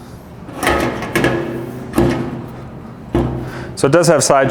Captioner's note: metal clanking